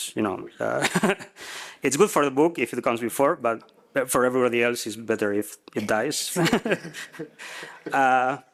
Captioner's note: risas